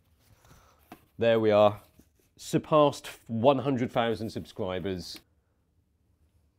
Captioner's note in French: en lisant